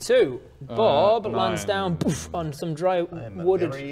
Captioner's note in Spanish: poof